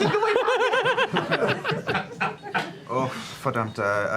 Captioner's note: laughter